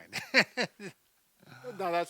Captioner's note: laughs